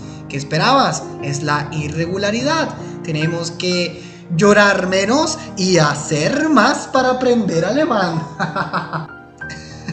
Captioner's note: laughs maliciously